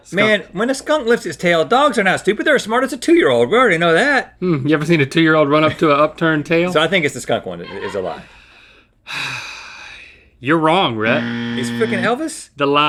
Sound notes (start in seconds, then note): 9.0 sighs